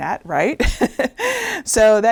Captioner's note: laughing